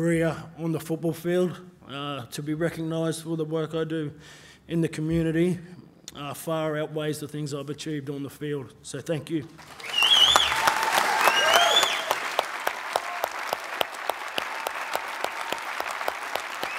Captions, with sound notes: on the football field, to be recognized for the work I do in the community far outweighs the things I've achieved on the field, so thank you. (cheering and applause)